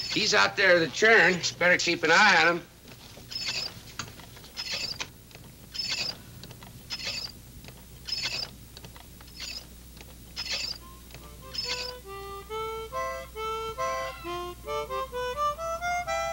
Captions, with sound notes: He's out there at the churn. Better keep an eye on him. (butter churn squeaking) (light music)